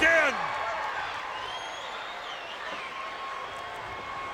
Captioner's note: audience cheers